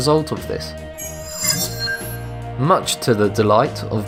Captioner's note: sharp chiming